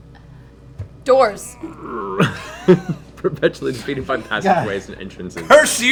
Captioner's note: laughing